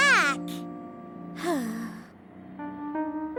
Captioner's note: sighing